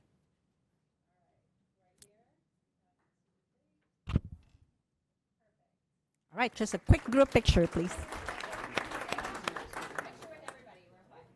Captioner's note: applause